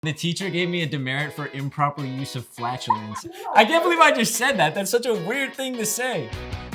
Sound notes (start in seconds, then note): 2.6 Bailee laughs